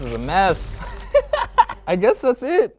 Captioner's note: laughing